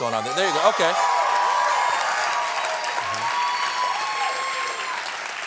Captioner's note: applause